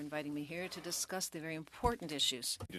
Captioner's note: speaking French